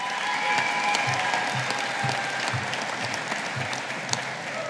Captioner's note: audience applauding